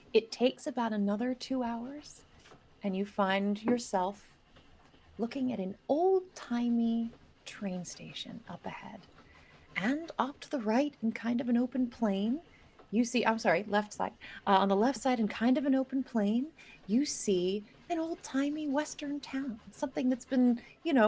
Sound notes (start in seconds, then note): none